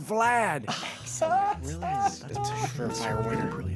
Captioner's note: man chuckles